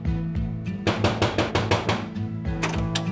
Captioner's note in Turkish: Kapı vuruluyor